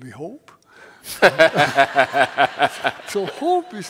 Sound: laughter

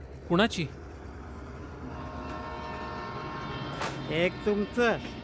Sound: train passing in the background

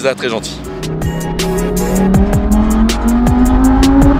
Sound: engine roaring

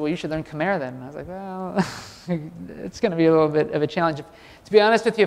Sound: laugh

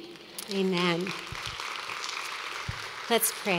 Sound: applause

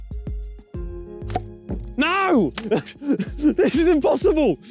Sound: laughing

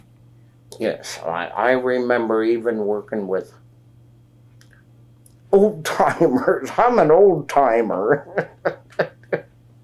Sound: laughs

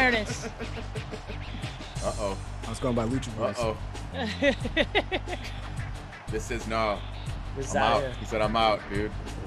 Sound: laugh

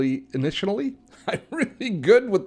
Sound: laughs

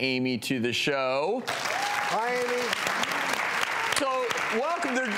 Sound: audience clapping

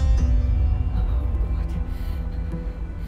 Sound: whispering

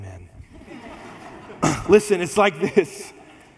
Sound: congregation laughs

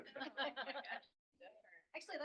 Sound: laughter

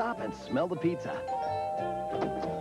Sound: doorbell

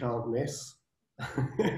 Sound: laughs

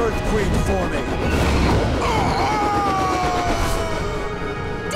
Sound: screaming

